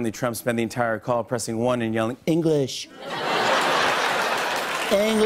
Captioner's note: As Trump